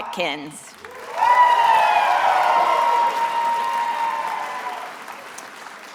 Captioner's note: attendees applauding and cheering